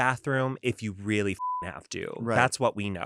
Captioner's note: beep